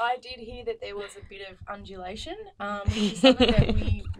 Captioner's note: laughing